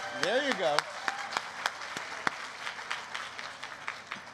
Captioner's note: applause